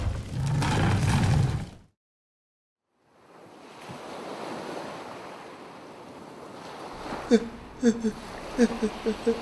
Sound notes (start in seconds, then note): 5.4 waves hitting the shore; 7.8 muffled crying